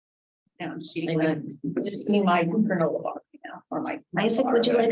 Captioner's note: members chattering